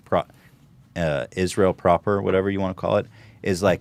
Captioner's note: none